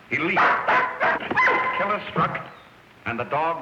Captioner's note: barking